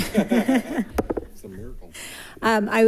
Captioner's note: all laughing